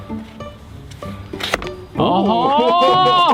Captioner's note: seatbelt snicks